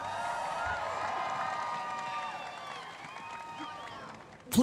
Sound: cheering and applause

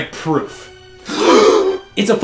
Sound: gasps

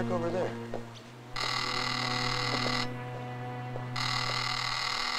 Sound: phone ringing

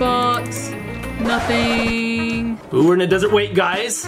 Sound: tape scratching

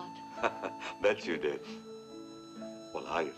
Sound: chuckles

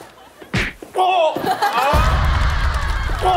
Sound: chopping

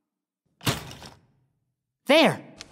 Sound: loud clank

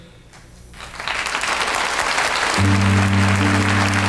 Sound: audience applauds; gentle music

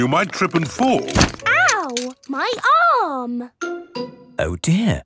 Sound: thumps

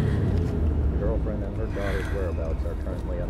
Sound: car revving; radio Announcer

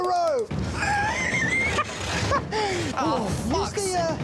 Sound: John giggles

